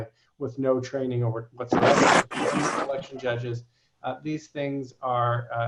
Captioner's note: speaks off the mic